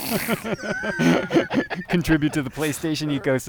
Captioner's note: laughter